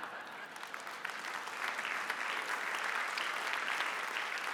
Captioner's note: audience applauding